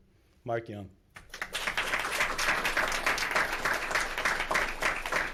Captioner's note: audience clapping